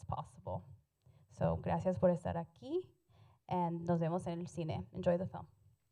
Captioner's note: Spanish language